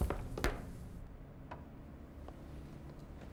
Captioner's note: gun blasts; body thuds